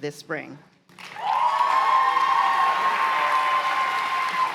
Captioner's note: cheers and applause